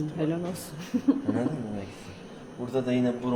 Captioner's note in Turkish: kahkaha